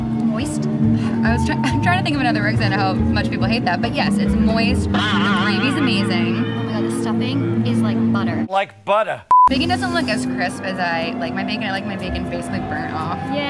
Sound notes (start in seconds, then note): 1.0 laughing; 5.1 spring boinking; 9.3 beep